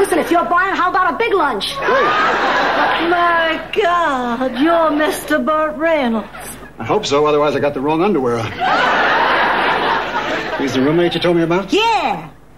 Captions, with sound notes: Listen, if you're buying, how about a big lunch? Great. My God, you're Mr. Burt Reynolds. I hope so, otherwise I got the wrong underwear. (audience laughing) Is there roomate you told me about? Yeah!